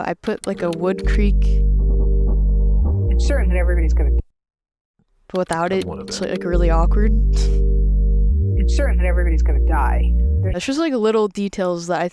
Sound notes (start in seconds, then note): 1.8 sleeper creaks; 8.1 chuckles